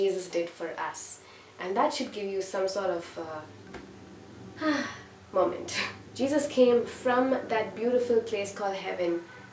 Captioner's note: sigh